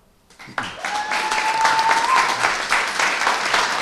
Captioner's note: applause